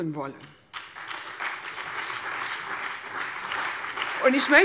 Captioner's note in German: Beifall CDU und BÜNDNIS 90/DIE GRÜNEN